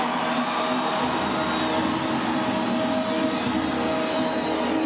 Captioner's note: crowd cheering